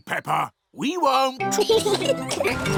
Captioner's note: both giggling